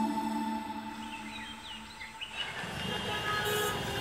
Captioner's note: Birds chirping; Car honking